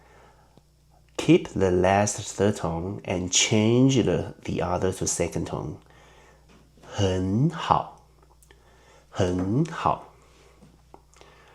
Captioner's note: in Mandarin